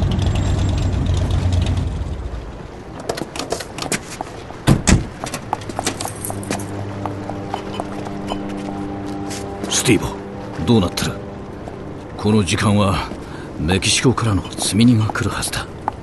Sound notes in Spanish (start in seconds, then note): 0.0 un auto se detiene; 2.7 se abre y cierra la puerta del auto; 4.8 pasos acercándose; 6.0 silbato de barco; 14.8 beeps del dispositivo de Steevo